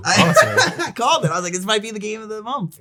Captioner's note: laughing